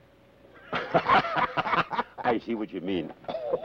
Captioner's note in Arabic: كلاهما يضحك